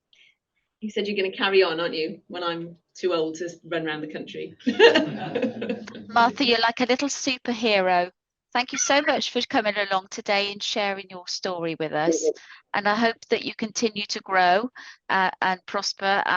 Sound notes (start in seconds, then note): 4.6 laughter